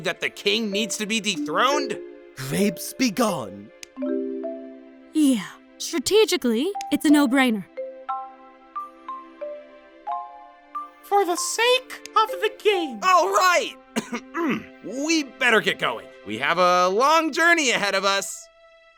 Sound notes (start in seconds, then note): 13.9 clears throat; 18.7 ominous music